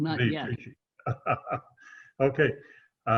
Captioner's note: laughing